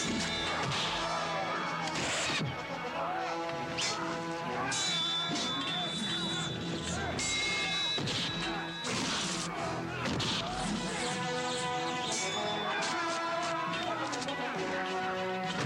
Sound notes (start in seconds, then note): 0.0 dramatic music; 0.0 men shouting; 0.3 pod gun firing; 0.3 sword whistling; 4.4 dramatic music; 4.4 men shouting